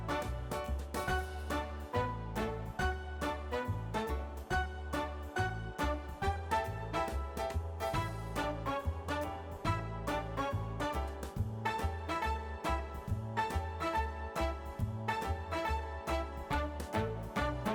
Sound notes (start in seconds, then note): none